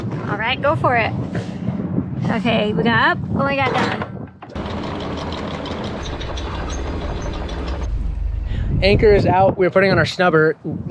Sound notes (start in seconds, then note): 4.6 chain unrolling